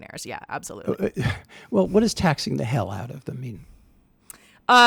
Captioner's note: chuckles